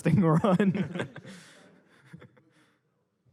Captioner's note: laughter